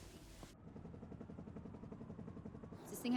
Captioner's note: helicopter blades chug